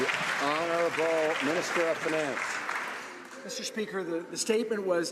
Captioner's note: some Applause